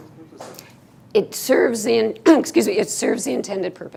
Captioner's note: clears throat